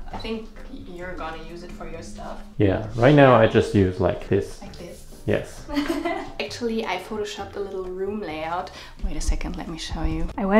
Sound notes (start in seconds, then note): 5.6 girl laughs